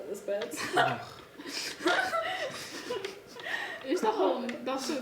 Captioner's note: laughing